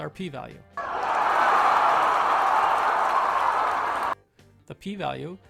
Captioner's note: crowd cheering